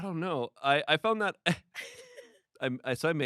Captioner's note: laughs